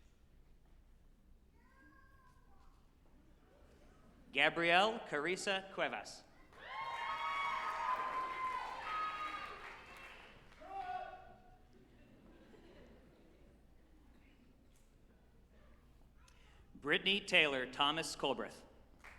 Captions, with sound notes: Gabriella Karissa Cuevas, (group applauding and cheering) Brittany Taylor Thomas Culbreth,